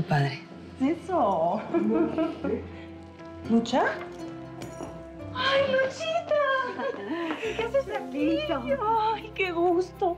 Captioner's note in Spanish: risas